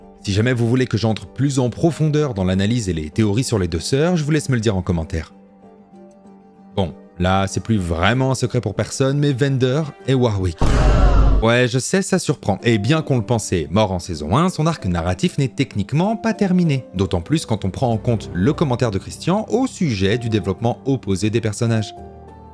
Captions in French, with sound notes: Si jamais vous voulez que j'entre plus en profondeur dans l'analyse et les théories sur les 2 soeurs J'vous laisse me le dire en commentaire. Bon... là c'est plus vraiment un secret pour personne mais Vander est Warwick ! *bruit de foule choquée* ouais je sais ça surprend et bien qu'on le pensait mort en saison 1, son arc narratif n'est techniquement pas terminé d'autant plus quand on prend en compte le commentaire de Christian au sujet du développement opposé des personnages.